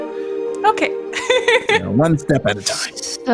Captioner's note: giggles